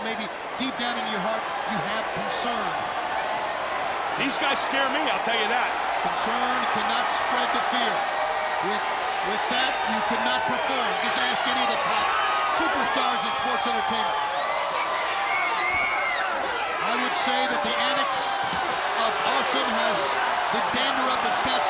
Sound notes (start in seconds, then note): 2.6 crowd cheering; 14.3 crowd cheering